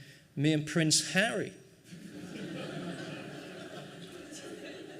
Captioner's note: laughing